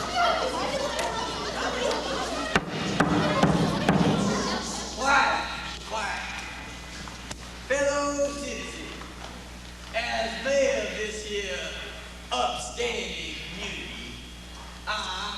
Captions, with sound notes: (gavel pounds) Quiet! Quiet. Fellow citizens! As mayor of this here upstanding community,